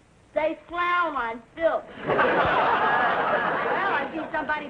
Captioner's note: audience laughing